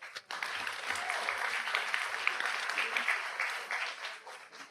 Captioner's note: audience applauds